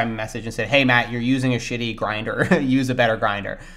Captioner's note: laughs